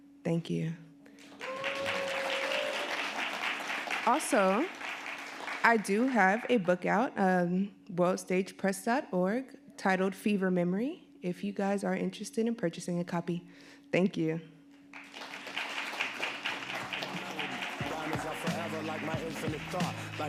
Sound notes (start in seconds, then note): 1.2 audience applauding; 14.9 audience applauding